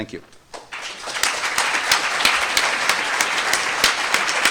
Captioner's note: applause